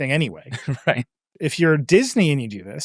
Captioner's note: chuckles